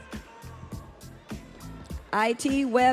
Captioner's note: audience cheering